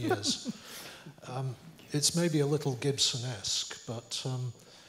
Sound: laugh

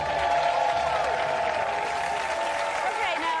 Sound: audience applause

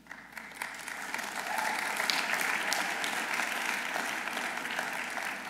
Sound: audience applauding

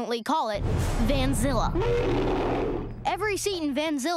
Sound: roaring

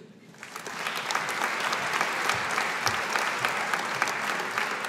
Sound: audience applauding

